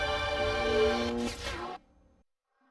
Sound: mechanical sounds

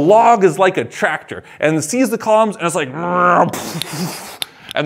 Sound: growls

